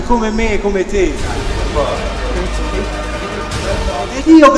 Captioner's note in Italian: chiacchierio